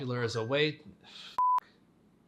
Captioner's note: beep